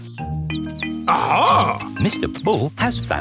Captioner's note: chirping